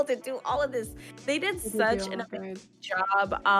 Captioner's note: murmuring